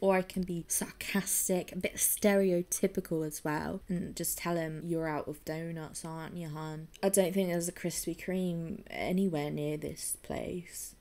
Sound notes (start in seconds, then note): none